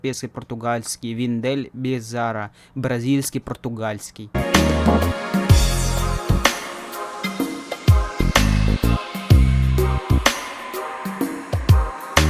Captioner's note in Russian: бразильский португальский